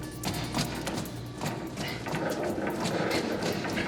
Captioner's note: panting